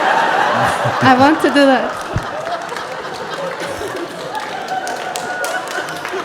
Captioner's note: laughter; laughter and clapping